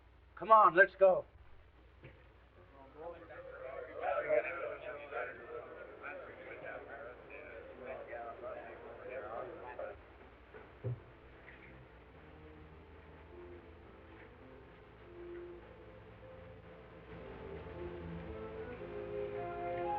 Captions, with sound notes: Come on, let's go. (members chattering) (dramatic music)